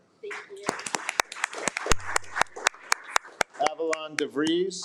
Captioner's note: attendees applaud